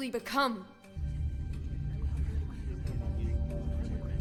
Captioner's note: indistinct chatter